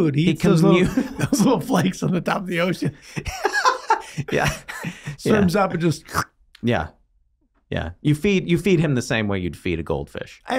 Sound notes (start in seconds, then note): 3.0 Glenn laughing; 6.0 Charlie slurps